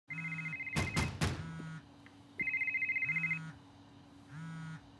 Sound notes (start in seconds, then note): 0.7 sound of banging on the door and cell phone ringing